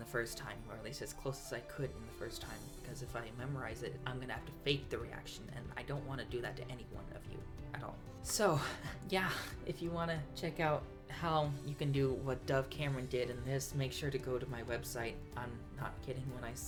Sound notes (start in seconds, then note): 8.5 laughs